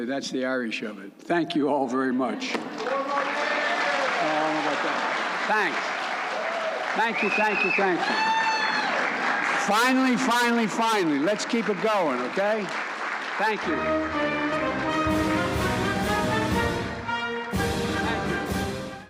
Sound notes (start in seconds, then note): 1.8 applause